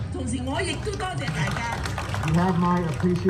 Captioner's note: speaking foreign language